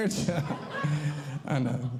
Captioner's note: audience Laughing